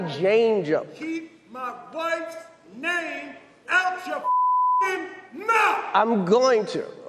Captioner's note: beeps